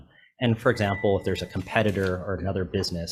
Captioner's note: bell chimes